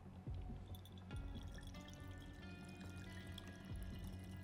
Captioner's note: liquid pouring